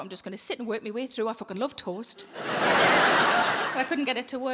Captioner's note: audience laughing